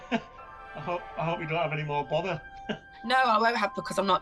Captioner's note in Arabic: يضحك; يضحك